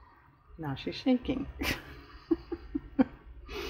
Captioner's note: laughs